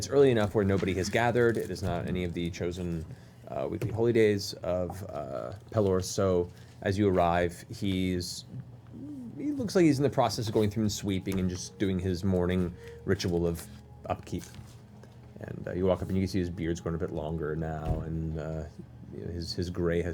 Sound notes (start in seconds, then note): none